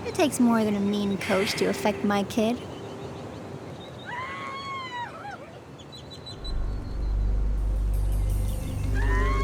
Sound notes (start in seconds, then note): 4.1 Bernice screaming; 6.4 dramatic music